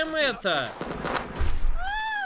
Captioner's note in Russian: крик женщины